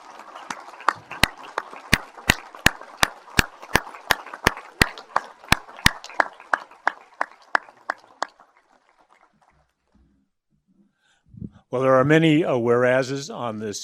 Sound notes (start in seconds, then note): 0.0 applause